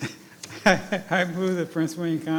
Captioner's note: laughing